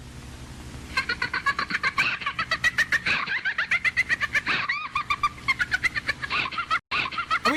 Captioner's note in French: rire assez traumatisant